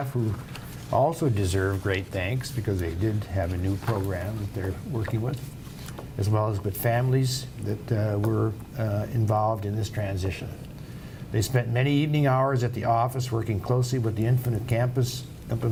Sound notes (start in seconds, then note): none